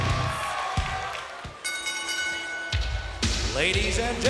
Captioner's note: bell dinging